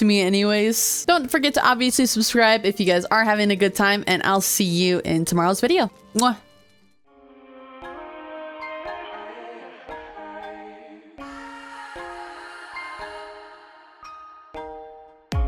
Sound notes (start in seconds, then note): 12.7 kiss